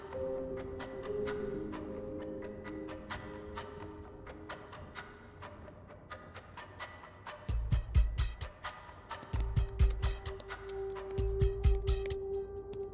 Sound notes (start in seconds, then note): 9.3 keyboard clicks